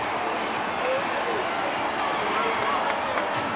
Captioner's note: crowd cheering